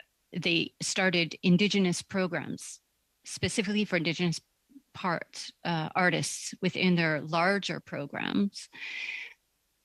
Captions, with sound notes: FOR THE ARTS -- [Speaking French] -- THAT THEY STARTED INDIGENOUS PROGRAMS, SPECIFICALLY FOR INDIGENOUS PARTS --